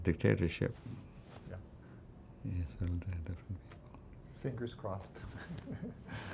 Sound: laughs

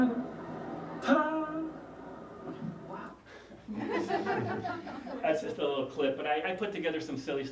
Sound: laugh

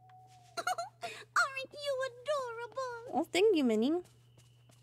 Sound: Minnie Giggles

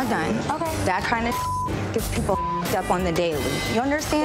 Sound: beep

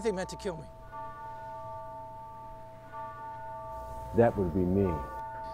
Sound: bell tolls

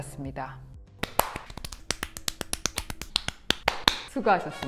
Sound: clap clap clap

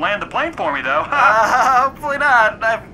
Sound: laughing

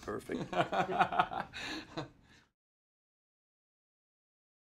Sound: interviewer laughs

